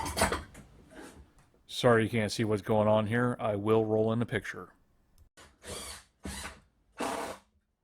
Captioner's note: drill Noises